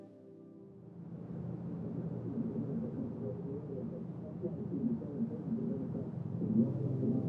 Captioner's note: soft music; people chattering